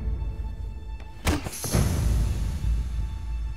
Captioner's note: impact sound